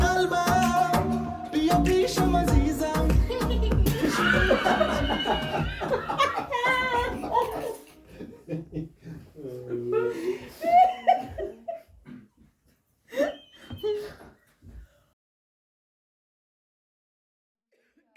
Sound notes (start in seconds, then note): 3.2 audience laughs